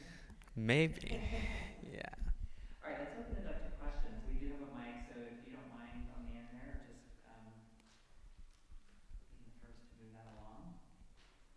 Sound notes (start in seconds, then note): 1.0 laughter